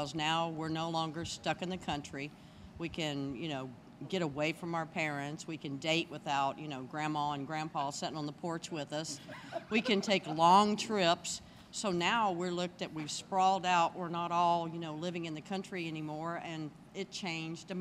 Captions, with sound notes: stuck in the country, we can get away from our parents, we can date without grandma and grandpa setting on the porch with us. (laughing) We can take long trips, so now we're looked at, we've sprawled out, we're not all living in the country anymore, and it changed America.